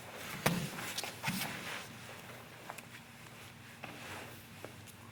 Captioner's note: soft thudding